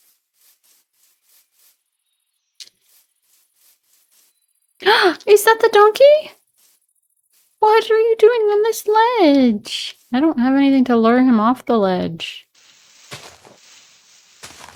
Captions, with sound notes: (Gasp) Is that the donkey? What are you doing on this What are you doing on this ledge? I don't have anything to lure him off the ledge.